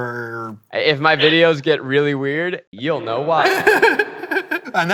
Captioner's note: laughter